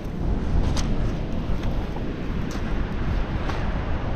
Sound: distant sound of waves

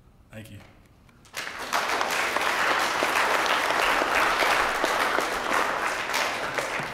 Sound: applause

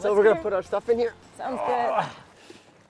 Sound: grunts

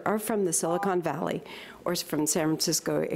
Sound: beep

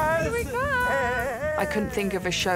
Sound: laughs

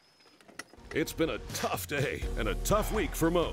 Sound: voiceover

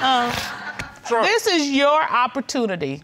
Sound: scoffs

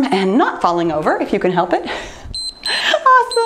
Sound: timer beeps

